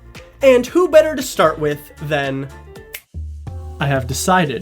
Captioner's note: snaps